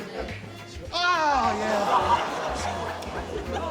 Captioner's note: audience exclaims